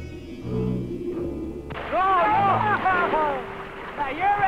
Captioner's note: people chattering